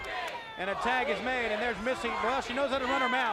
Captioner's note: crowd cheering